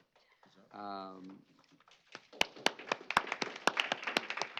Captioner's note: applause